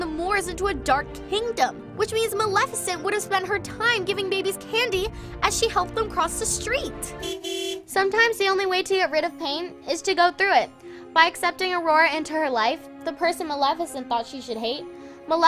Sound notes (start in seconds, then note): 7.2 honking